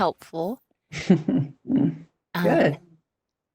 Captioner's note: chuckles